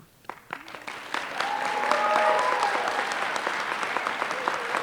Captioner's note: applause